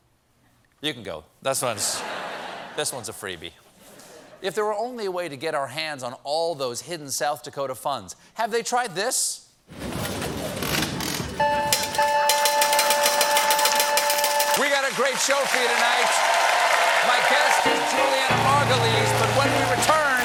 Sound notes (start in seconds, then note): 1.8 laughter; 11.4 slot machine winning bells